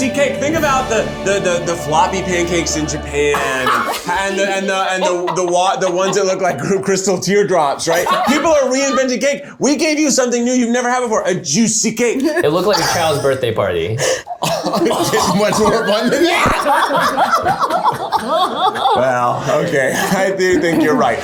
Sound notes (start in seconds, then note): 3.1 laughing; 12.2 scoffing; 16.5 laughter